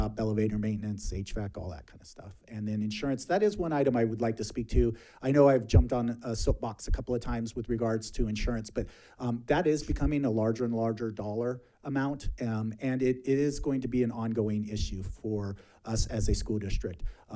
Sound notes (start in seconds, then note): none